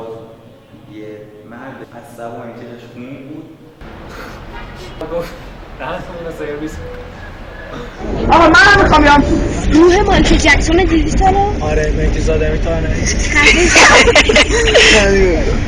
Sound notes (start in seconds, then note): 13.1 laughter